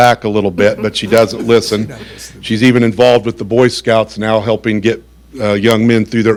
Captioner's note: laughter